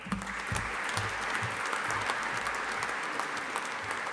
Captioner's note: audience applauding